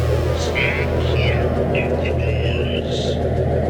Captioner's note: automated voice